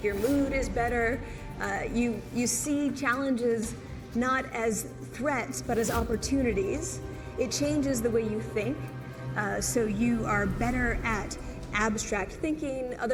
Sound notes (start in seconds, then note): none